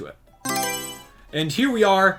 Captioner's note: Mario Selection Sound